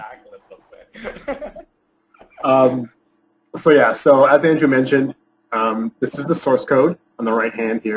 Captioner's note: laughs